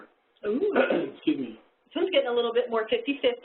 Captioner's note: coughs